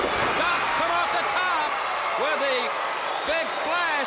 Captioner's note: crowd cheering